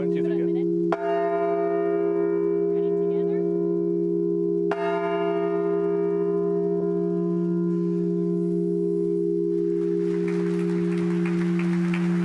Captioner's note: bell rings